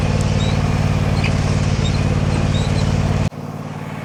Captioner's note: squeaking